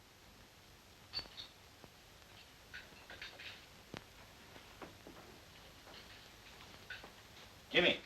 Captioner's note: plates clattering